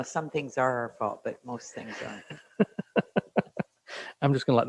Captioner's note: laughs